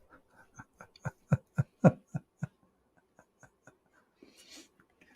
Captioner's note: Ketawa